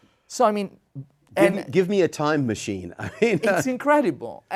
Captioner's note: laughs